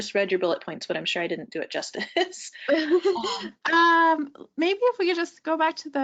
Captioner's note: laughing